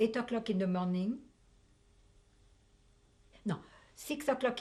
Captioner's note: pauses for 3 seconds